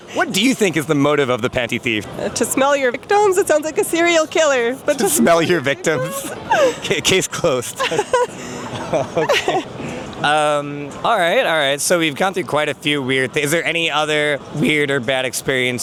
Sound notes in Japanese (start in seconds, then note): 7.6 笑い